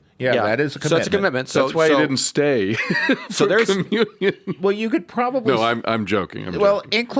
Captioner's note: laughs